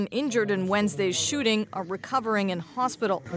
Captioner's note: speaking alternate language